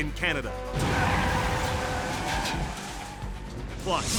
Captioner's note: tires screeching